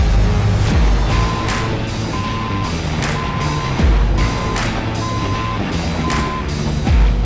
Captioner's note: upbeat music; vehicle beeping; upbeat music; vehicle whirring